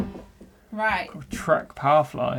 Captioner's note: siren beeping